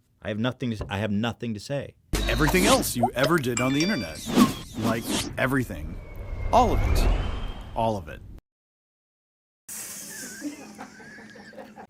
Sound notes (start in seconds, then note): 6.8 quietly descending voice; 10.1 Ajit Pai mockingly busts out laughing with his crew